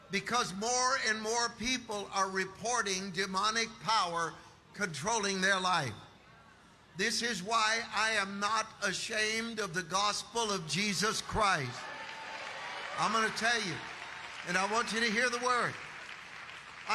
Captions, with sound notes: Because more and more people are reporting demonic power controlling their life. This is why I am not ashamed of the gospel of Jesus Christ. (audience applauding) I'm going to tell you, and I want you to hear the word,